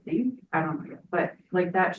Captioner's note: speaks faintly